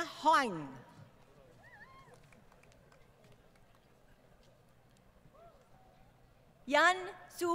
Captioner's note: crowd Cheering